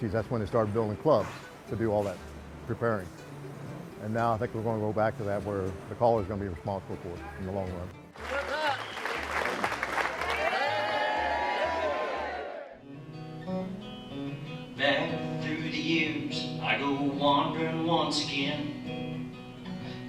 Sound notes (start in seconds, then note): 8.1 audience clapping and yelling; 13.7 guitar folk music